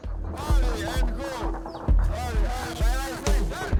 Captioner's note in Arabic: الصوت المنطوق الأوكراني